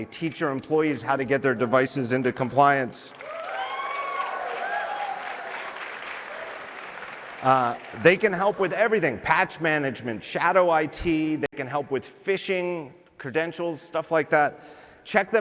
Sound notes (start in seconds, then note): 3.1 applause